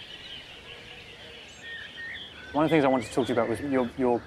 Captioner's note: children chattering; birds chirping